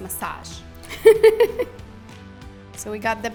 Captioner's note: laughing